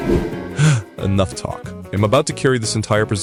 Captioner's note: gasp